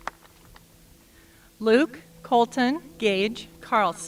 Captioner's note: applause